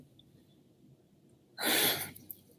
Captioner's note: exhales